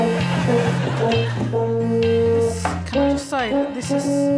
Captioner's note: horn playing; phone buzzing